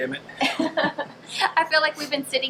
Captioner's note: both laughing